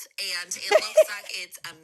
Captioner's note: laughs